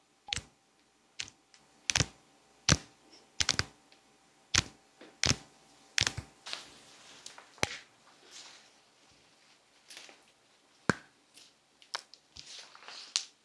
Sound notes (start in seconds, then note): 0.2 nails clashing; 7.5 crazy bone cracks